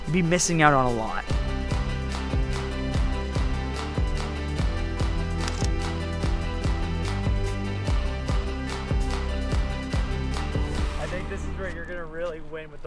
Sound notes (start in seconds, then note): 3.2 upbeat music; 5.4 camera shutter clicks